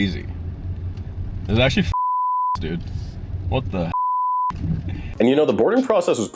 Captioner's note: boop